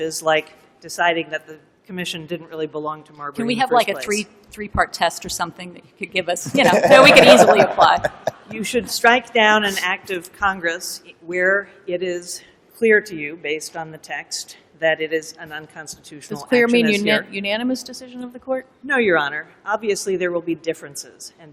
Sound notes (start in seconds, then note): 6.4 laughter_